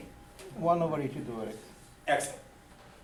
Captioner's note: voiceover